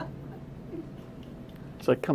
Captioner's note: laughter